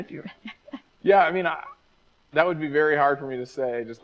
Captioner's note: laughs